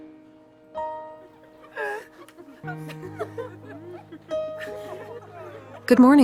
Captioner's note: patients laugh in background